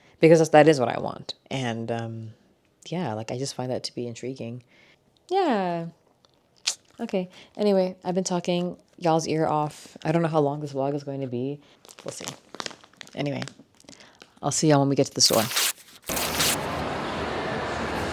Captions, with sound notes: because that is what I want. And yeah, like I just find that to be intriguing. Yeah. Okay. Anyway, I've been talking y'all's ear off. I don't know how long this vlog is going to be. We'll see. Anyway, I'll see y'all when we get to the store. (camera shutters)